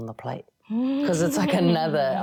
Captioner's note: laughing